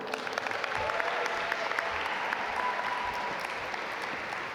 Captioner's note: audience applaud